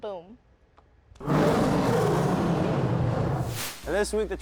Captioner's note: lion roaring